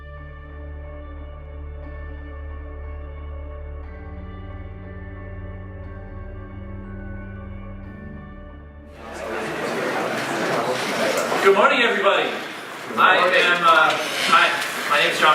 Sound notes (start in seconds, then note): 0.3 upbeat music; 8.9 crowd chattering